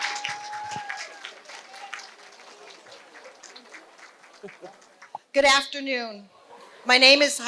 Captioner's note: applause